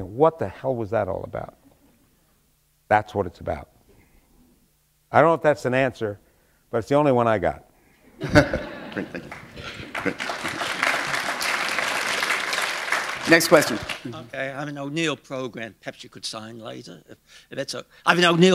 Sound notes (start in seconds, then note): 8.2 chuckle; 10.4 applause